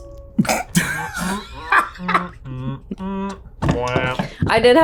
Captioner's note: laughing